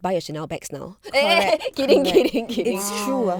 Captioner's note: laughs